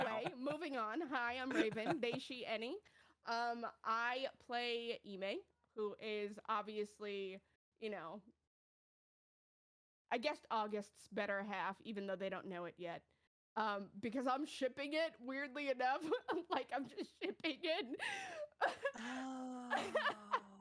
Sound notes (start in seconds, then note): 16.0 laughing; 19.7 laughing